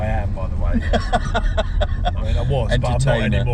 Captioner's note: laughing